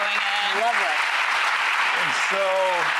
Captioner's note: audience applauding